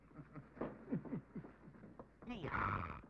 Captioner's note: chuckling